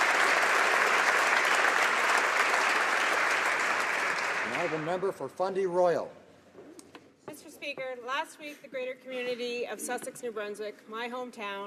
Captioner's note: applause